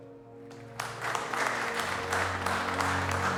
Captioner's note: applause